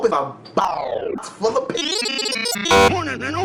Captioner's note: glitchy noises